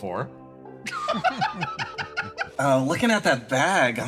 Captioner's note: laugh